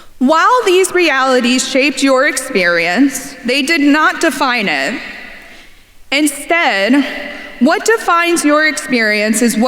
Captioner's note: none